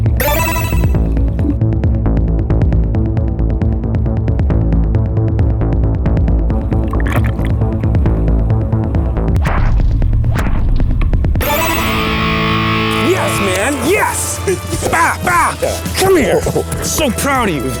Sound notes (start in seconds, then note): 0.1 video game sound effect; 9.3 punches land